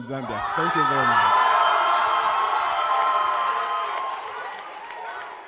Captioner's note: audience cheering